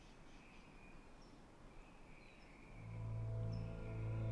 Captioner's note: bird chirp